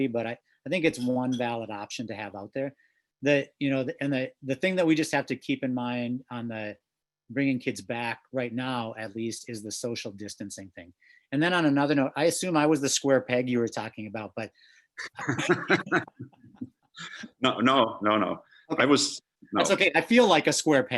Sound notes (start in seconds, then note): 15.0 laughs